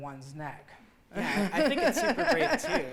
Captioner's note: laughing